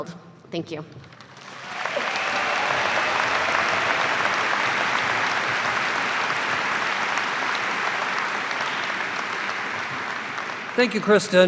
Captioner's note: applause